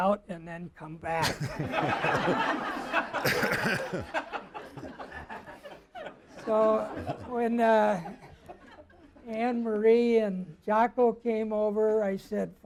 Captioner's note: crowd laughing